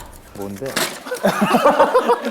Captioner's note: ssshhh